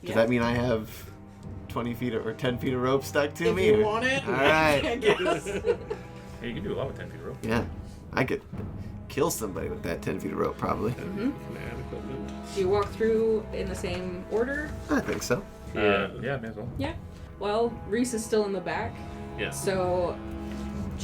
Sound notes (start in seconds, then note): 4.0 laughing; 4.2 laughter; 4.3 far too enthused; 11.4 muttering to himself